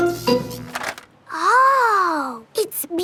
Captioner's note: buzzing